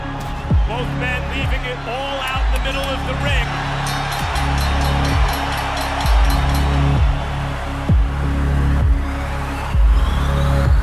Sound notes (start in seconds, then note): 3.2 crowd cheering; 3.8 bell dinging